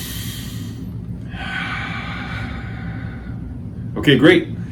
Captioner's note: inhales; exhales